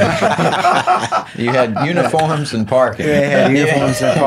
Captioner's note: laughing